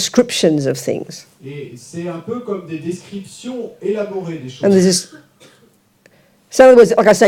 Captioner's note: audience member speaks in French